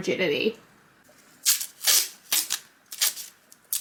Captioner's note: masking tape tears off roll